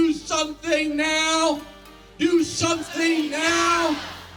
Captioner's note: audience joins in